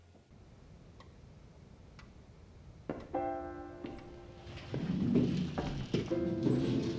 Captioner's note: clock ticking